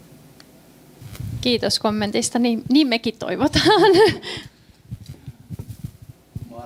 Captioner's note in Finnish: naurua